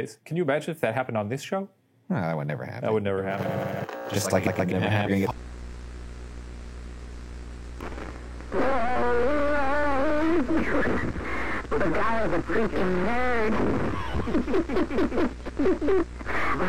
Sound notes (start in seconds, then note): 3.7 static buzzes; 5.8 static buzzes; 8.6 hijacker moans and laughs; 13.9 hijacker laughs sinisterly